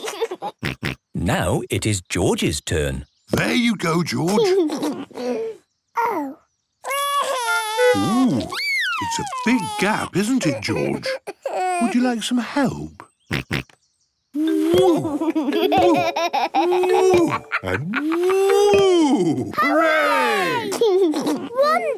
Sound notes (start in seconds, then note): 0.0 laughs; 6.8 cries; 13.1 snorts; 16.6 laughs; 20.6 laughs